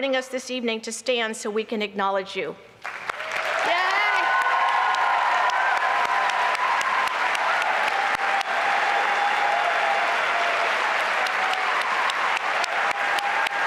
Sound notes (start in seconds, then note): 2.8 applause and cheering